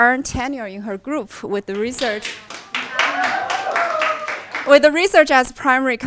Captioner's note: audience applauds